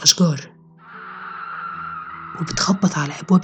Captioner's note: Wicked hissing sounds